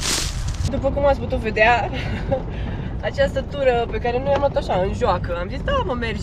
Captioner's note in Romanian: râsete